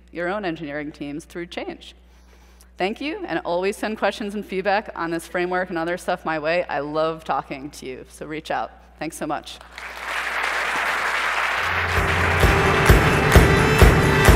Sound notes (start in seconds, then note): 9.6 applause